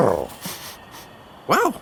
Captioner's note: big Lizard purrs; Dad sniffs